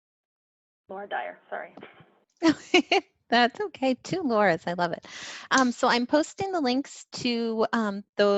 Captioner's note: laughs